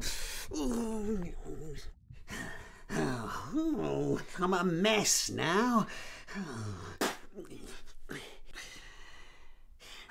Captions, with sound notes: I'm a mess now. (spits)